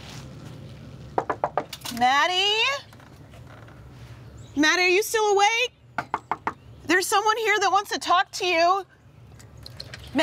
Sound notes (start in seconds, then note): 1.2 knocking